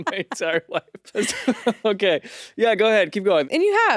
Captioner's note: laughing